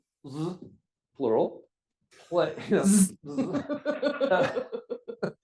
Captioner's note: laughs